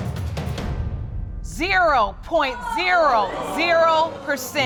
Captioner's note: audience groans